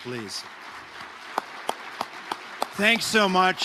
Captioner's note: audience applauding